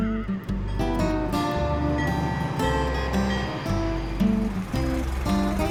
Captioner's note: horse neighing; train engine roaring